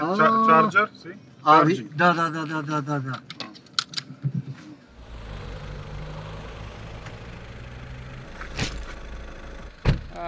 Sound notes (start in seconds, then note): 4.8 engine noise